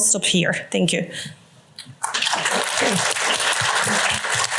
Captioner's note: applause